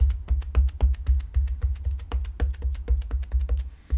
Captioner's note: stamp tapping